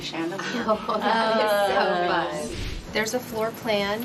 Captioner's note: chatter